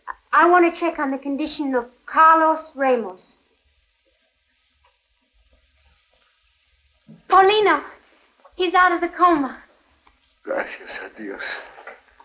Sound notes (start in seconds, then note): none